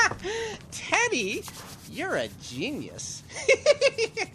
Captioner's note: laughing; laughing